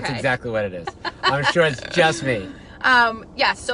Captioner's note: laughing